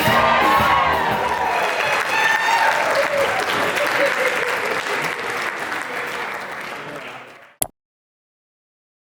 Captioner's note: applause; เสียงปรบมือ